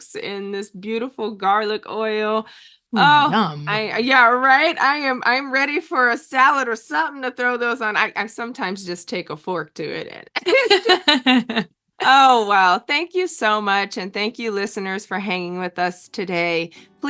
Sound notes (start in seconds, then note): 10.4 laughs